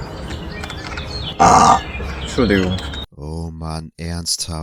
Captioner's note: small burb